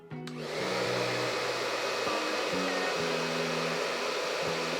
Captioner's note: hair dryer starts